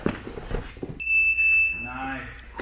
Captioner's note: fabric rustling; beep